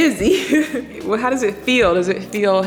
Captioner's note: chuckles softly